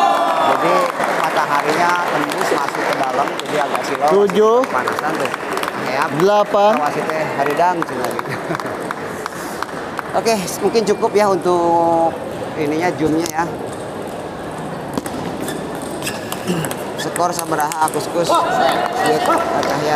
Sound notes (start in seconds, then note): 5.2 applause